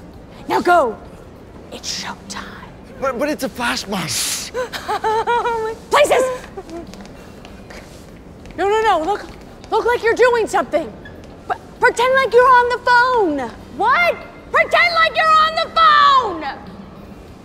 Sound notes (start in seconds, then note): 5.3 mumbling/crying; 15.0 yelling